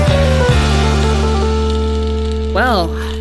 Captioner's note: sizzling